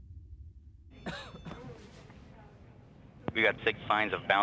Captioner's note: man coughing